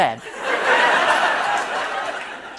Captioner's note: laughter